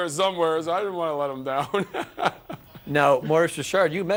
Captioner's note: laughter